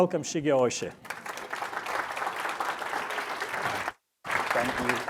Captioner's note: audience laughs